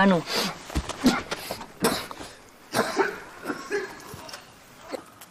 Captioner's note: coughing